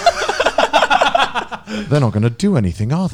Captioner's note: laughing